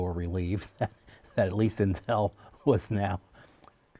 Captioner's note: laughter